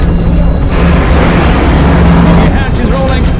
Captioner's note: wind whipping